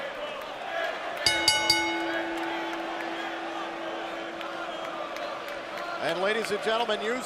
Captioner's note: bell ringing